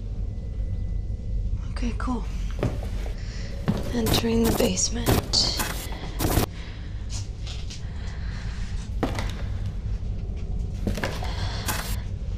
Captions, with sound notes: Okay, cool. [STATIC NOISE] Entering the basement. [FOOTSTEPS] [STATIC NOISE]